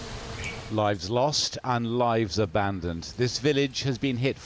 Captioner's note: voice-over